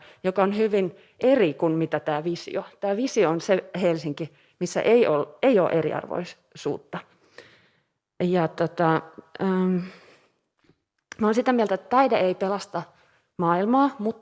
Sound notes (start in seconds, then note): none